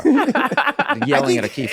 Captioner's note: laughs